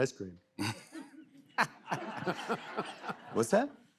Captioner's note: laughs